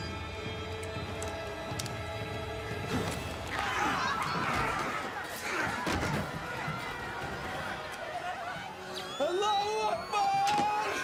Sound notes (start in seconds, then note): 3.5 screaming